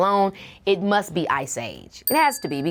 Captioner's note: bell dings